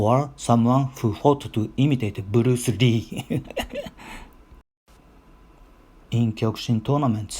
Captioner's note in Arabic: يضحك